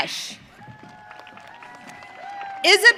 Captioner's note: audience cheering